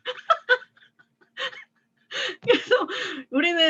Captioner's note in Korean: 웃음